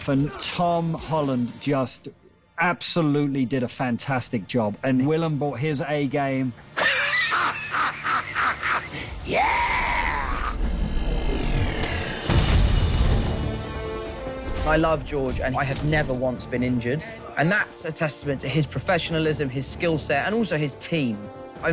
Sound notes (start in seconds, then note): 6.8 cackling